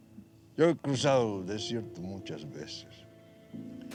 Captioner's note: speaking spanish